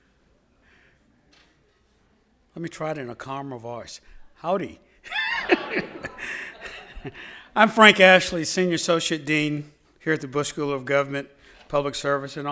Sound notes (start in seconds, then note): 5.0 laughs; 5.1 audience laughs